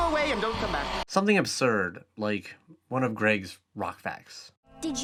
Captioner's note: voiceover